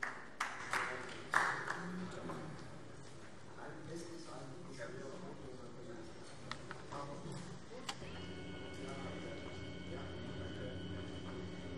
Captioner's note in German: Vereinzelter Beifall AfD